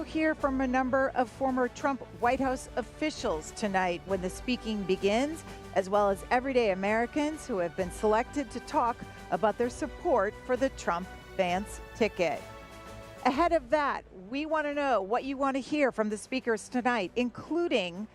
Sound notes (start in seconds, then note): none